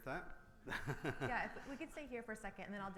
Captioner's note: laughs